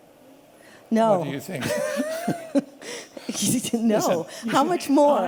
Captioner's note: laughter